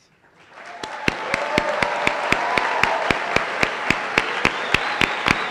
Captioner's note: cheering and applause